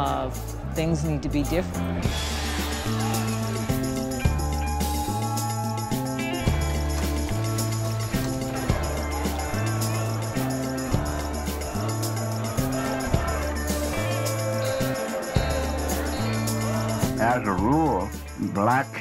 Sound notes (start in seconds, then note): 10.7 chanting